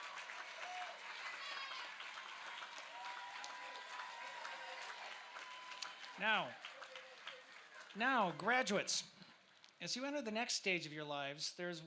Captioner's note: cheers